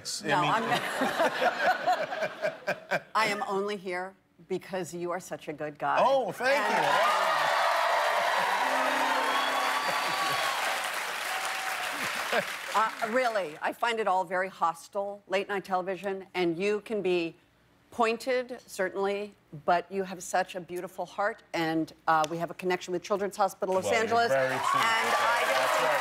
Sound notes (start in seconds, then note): 0.6 laughter; 6.4 cheers and applause